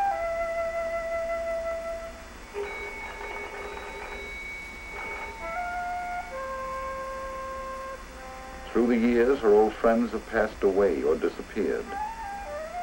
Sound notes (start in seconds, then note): 2.5 doorbell rings